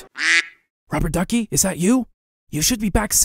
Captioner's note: quack; whispers